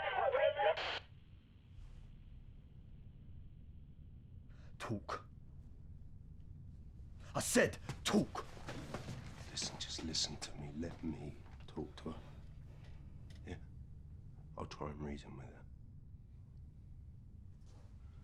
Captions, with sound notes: CONTAINMENT ZONE FOUR IS BREACHED. [STATIC FROM WALKIE TALKIE] TALK. I SAID, TALK. JUST LISTEN TO ME. LET ME TALK TO HER. I'LL TRY AND REASON WITH HER.